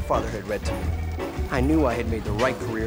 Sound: phone ringing

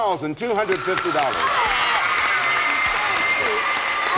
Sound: applause

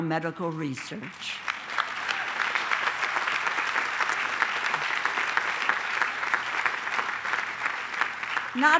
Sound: applause

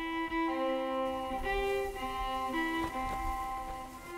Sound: wind rustling

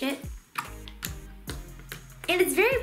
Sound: sploshing

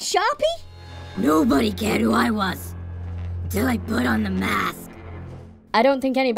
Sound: gruff voice

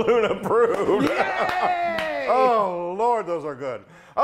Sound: laugh

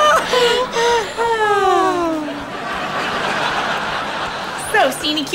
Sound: sigh

